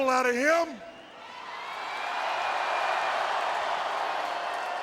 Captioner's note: audience cheers